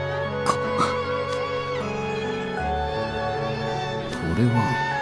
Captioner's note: baby’s cries